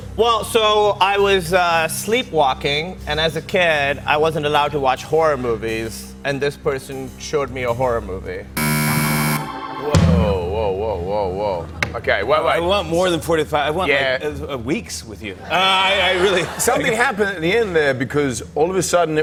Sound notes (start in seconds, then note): 8.6 buzzer; 15.4 laughter